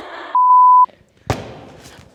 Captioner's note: electronic beep; smacking balloon